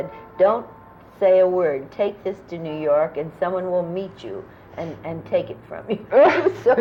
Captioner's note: laughter